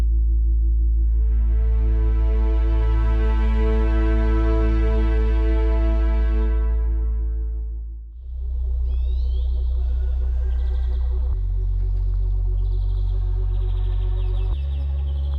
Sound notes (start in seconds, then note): 3.0 birds chirping; 3.0 funky music